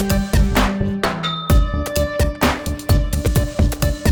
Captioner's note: ding